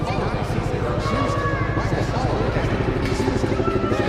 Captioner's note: nervous shouting